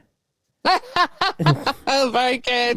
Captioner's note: laughs